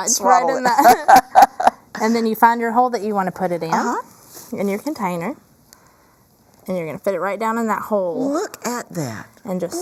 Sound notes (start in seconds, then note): 0.5 laughing